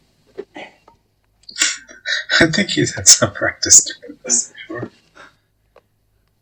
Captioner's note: chuckling